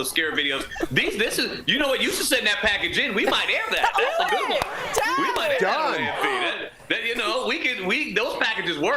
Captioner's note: laughter